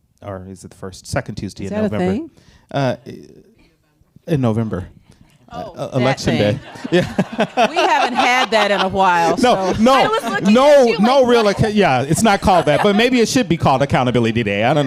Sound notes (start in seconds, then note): 7.5 laughs; 8.3 audience laughing